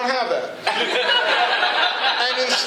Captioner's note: laughter